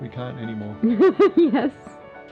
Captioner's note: laughs